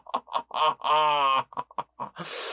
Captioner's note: laughing noise